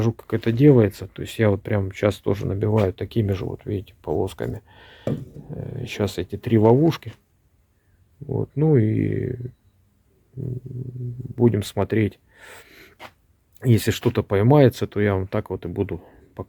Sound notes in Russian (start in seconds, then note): 10.4 фыркает